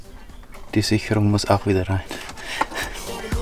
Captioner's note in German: Lachen